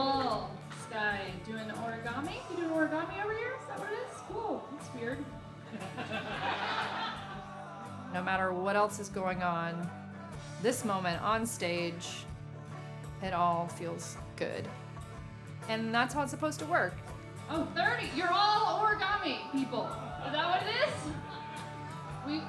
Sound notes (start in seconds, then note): 5.6 laughing